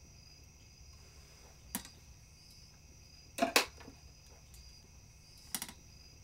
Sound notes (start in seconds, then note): 1.2 sniffs